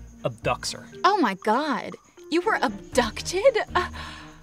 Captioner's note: gasps